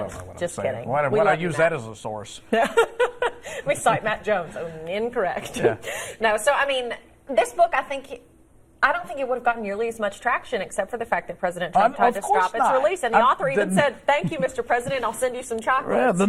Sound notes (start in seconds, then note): 13.5 laughter